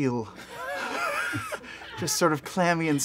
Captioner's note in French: rires